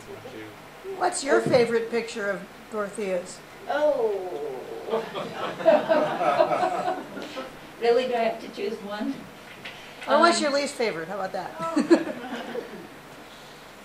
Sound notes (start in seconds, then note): 4.9 laughter; 11.6 laughter